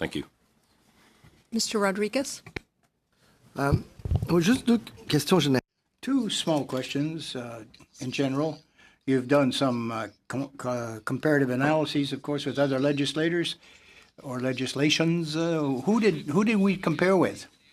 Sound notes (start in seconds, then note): 8.9 speaking French